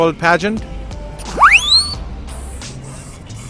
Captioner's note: robot noises